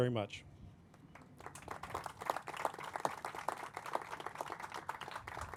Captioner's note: crowd applauding